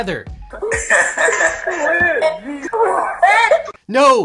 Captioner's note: laughing